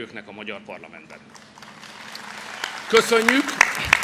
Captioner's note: applause